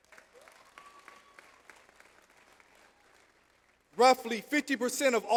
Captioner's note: audience applauds